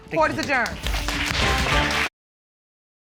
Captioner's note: audience applauding